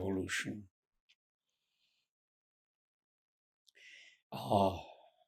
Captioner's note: pauses 6 seconds